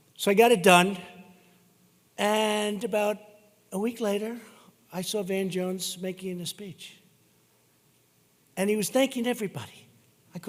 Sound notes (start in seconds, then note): none